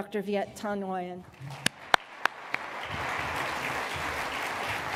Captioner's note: applause